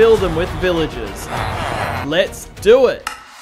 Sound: villager noises

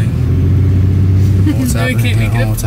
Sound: engine humming; laughs

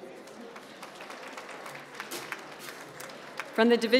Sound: applause

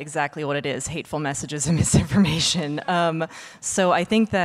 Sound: laughing

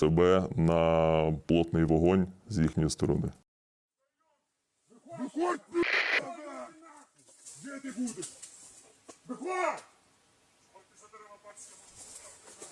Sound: the sound of footsteps in the forest

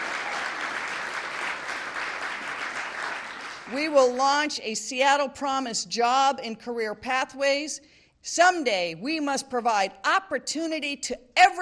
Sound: applause

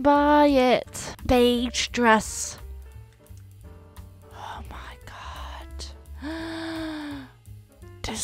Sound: gasps

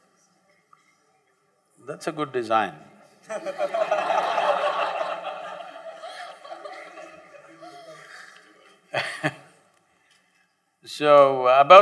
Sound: laughs; laughter

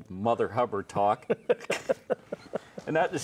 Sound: laughs

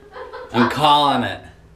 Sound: laughter in background

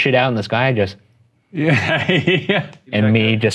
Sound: laughing

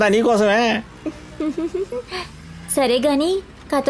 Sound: laughs

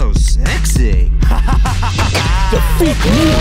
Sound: laughs

